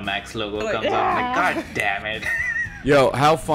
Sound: laughs

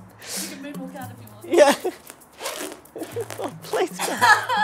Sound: all laugh

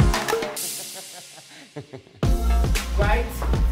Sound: laughs

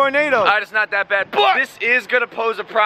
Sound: slurred; yelling

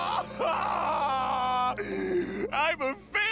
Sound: crying

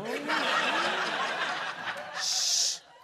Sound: laughter

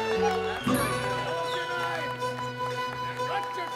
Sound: whistling

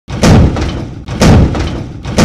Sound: thud

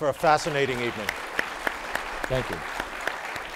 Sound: applause

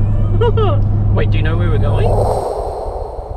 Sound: laughing

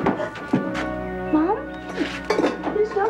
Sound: Irene sniffles

